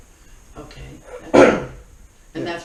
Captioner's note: clears throat as loud as humanly possible